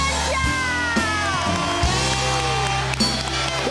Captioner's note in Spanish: Aplausos; Gritos